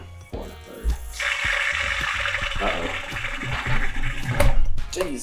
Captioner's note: gargling sound